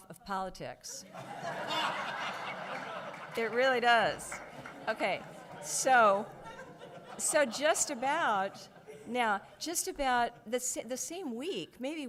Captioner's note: audience laughs